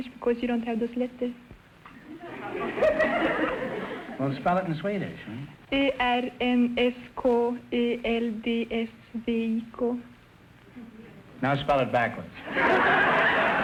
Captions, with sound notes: Of course, you don't have those letters. (audience laughter) - Well spell it in Swedish, huh? (speaking foreign language) Now spell it backwards. (audience laughter)